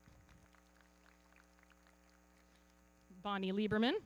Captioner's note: everybody clapping